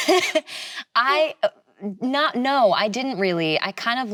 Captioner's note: laughs